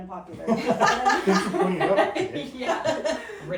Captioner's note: laughing